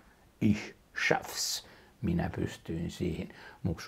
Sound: German

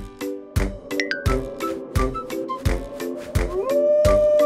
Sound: wind whistling; howling

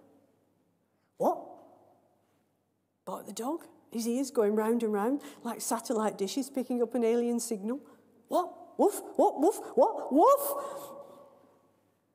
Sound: woof; woof!!

